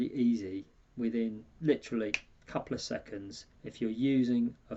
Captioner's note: snaps fingers